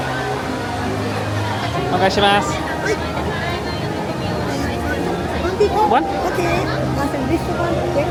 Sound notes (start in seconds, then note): 2.2 and cast speaking Japanese